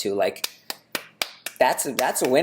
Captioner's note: clapping